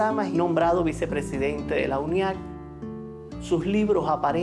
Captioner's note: speaking Spanish